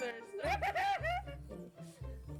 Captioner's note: cackles